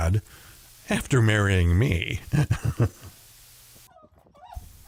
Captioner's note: laughing